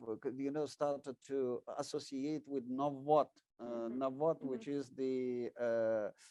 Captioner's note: speaking in foreign language